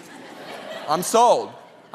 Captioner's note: audience laughing